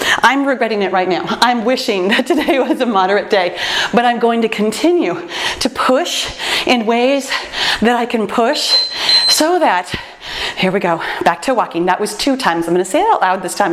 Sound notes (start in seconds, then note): 2.0 laughs; 8.6 timer beeps